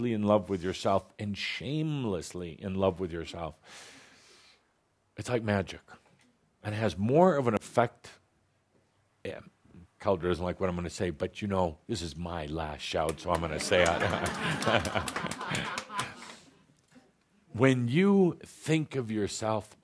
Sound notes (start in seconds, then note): 13.4 chuckles to laughter and some applause